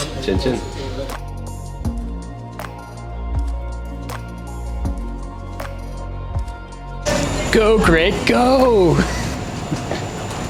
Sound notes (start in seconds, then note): 2.1 soft dreamy electronic music; 8.9 laughs